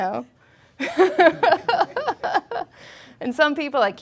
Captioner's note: laughing